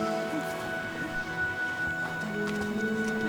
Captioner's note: girls giggling